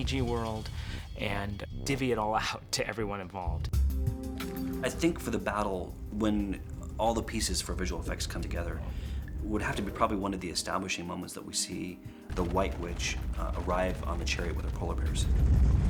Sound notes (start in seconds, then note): none